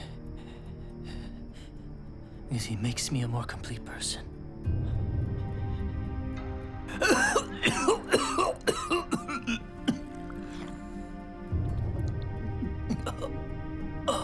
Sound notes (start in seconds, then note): 10.2 coughing